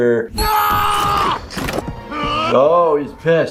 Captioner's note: screams angrily